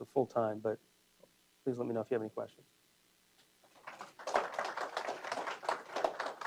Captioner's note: applause